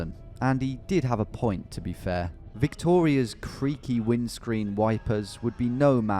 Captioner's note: none